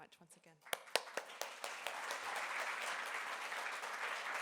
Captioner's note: applause